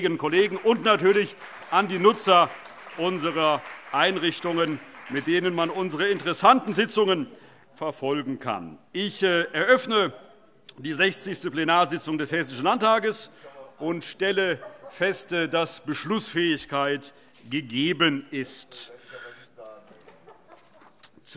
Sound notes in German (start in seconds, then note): 7.4 Beifall